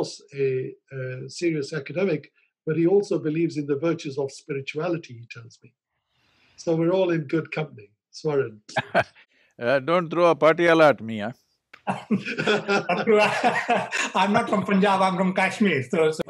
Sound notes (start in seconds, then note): 8.7 laughs; 11.8 laughter